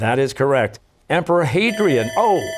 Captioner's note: bell ringing